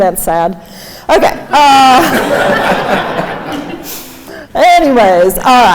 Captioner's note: crowd laughing